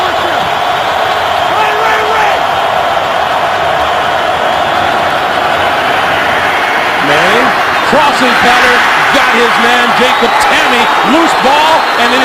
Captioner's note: crowd noise